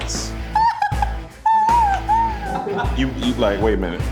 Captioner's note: laughs